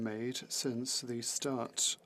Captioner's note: speaking French